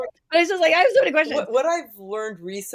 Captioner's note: laughter